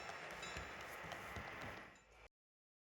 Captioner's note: bell fades